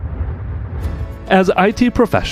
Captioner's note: electronic rumble